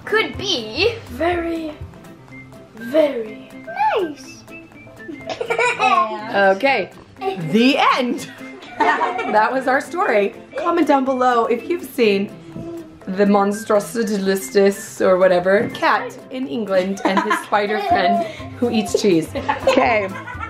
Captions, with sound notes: - Could be - Very very - Nice. (giggles) - Okay, the end. (laughs) That was our story, comment down below if you've seen the monstrous-i-dis-is-less or whatever, cat in England and his spider friend who eats cheese.